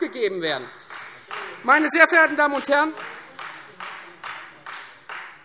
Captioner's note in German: Beifall Freie Demokraten